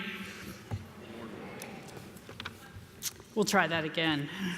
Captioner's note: crowd